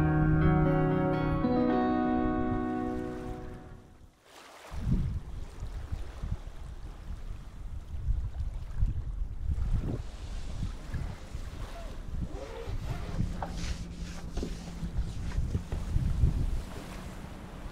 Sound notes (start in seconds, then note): 5.1 water lapping gently